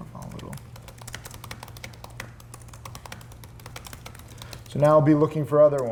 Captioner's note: keyboard clicking